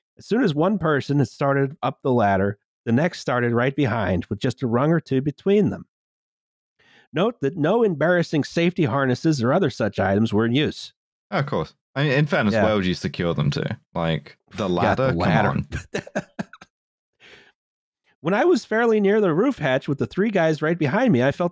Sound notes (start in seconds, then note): 14.6 laughs